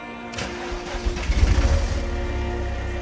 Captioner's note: engine starting